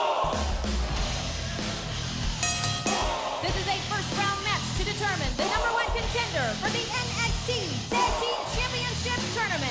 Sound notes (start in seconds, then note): 2.4 bell ringing